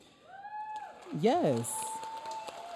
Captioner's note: audience cheering